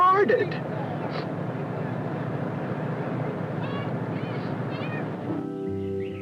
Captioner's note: road sounds